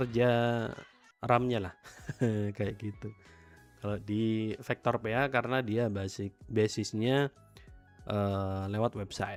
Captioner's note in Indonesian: tertawa